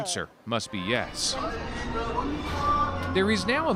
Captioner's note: speaking alternate language